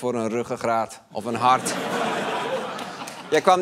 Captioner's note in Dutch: gelach